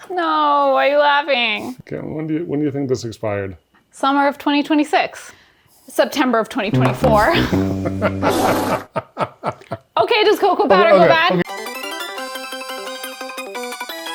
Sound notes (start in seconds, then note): 6.7 laughing; 11.4 upbeat music